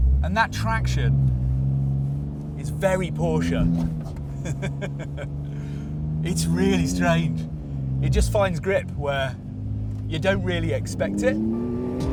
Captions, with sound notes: and that traction is very Porsche. (LAUGHS) It's really strange. It just finds grip where you don't really expect it.